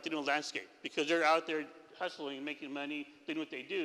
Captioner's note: none